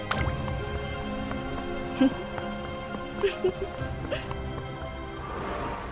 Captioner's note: giggles; laughs